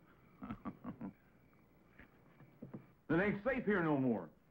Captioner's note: laughs